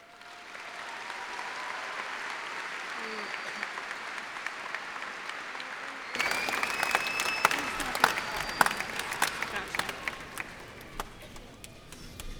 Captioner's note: cheers and applause